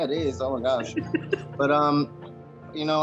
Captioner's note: laughs